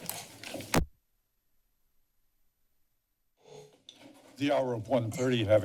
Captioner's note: silence